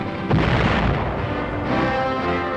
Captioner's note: missile exploding